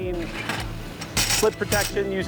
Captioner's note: metal ladder clanging